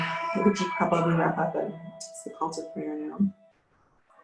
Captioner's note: musical alarm resounding